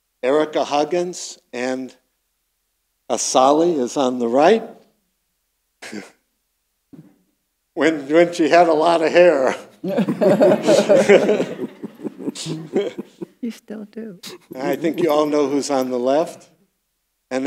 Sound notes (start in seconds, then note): 9.8 laughing; 9.8 audience laughing